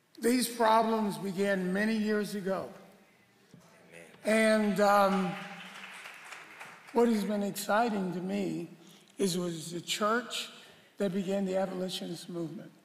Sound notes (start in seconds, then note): 4.4 applause